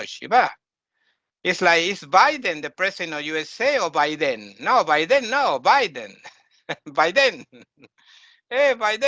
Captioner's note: laughing